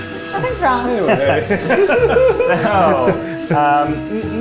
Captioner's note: all laugh